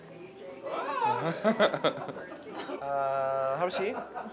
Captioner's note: laughing